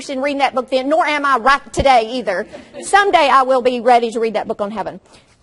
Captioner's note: audience laughs